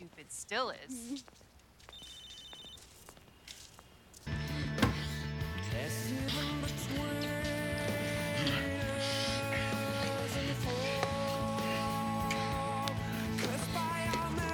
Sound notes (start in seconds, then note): 1.8 cell phone ringing; 6.1 gasping